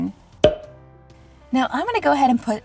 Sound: quick pop

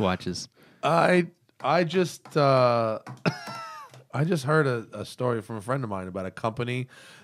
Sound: laughter

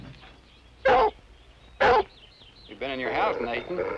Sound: barking

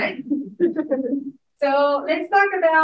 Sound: audience members chuckling

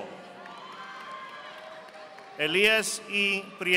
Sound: audience applauding

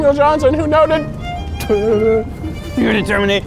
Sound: spitting

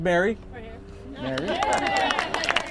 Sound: group cheers; crowd clapping

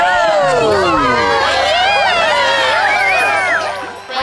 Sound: cheers from crowd

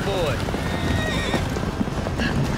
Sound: horse whinnies; galloping horses

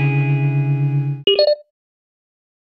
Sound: video game beep

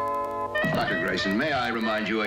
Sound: chuckles

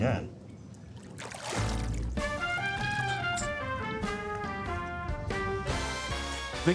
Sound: water splashing; lively music

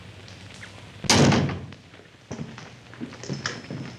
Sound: door slams

